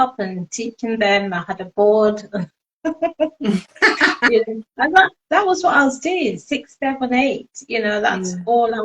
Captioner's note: laughing